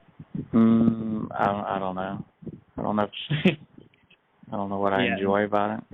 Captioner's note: chuckles